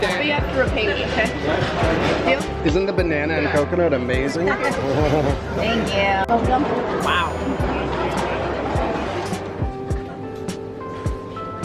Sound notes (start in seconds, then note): 4.8 laughing; 8.2 gentle rhythmic music